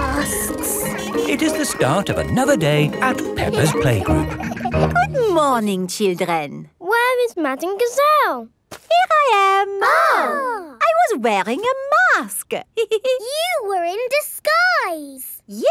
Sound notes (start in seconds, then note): 9.6 exclaiming; 12.8 giggles